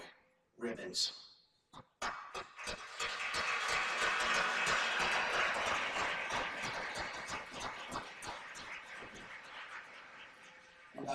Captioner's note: applause